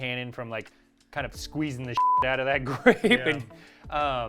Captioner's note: beep